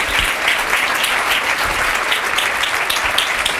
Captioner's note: applause